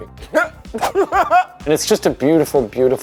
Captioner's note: laughs